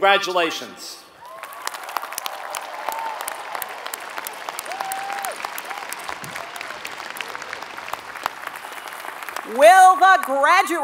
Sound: applause

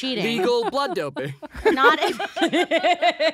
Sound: they laugh

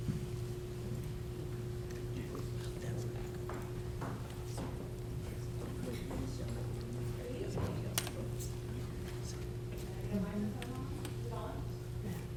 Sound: speaking away from microphone

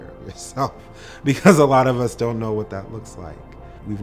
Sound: chuckles

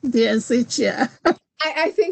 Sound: laughs

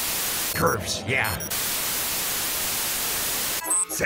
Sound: Static; alarms🚨

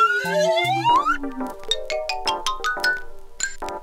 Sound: slide whistle ascending; xylophone plinking

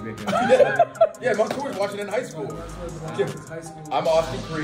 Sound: laugh

